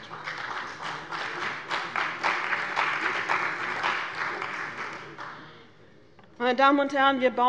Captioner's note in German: Beifall bei dem BÜNDNIS 90/DIE GRÜNEN und der CDU